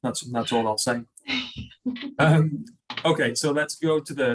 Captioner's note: laughs